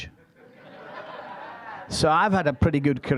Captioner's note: audience laughing